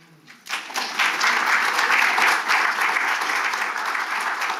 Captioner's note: audience clapping